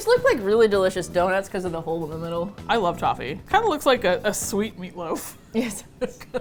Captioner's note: both laugh